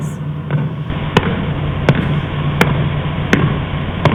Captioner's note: knocks